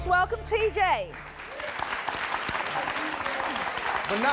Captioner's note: audience applauding